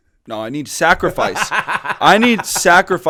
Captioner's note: laughter